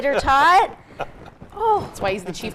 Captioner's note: laughs